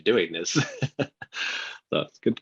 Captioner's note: laughs